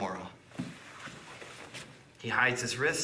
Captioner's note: soft shuffling